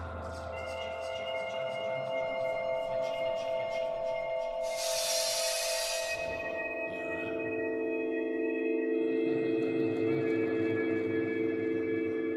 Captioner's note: people in the house talking amongst themselves